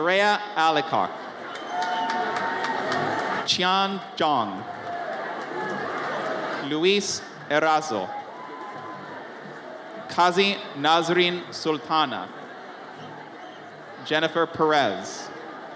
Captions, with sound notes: Azzareya Allicock. (audience cheers) Chian Jong. Luis Erazo. Kazi Nasrin Sultana. Jennifer Perez.